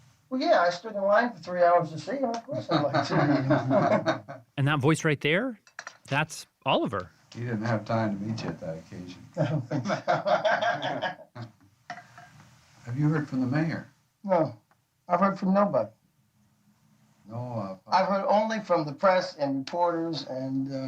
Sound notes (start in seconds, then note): 2.8 laughs